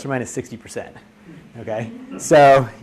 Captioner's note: audience laughs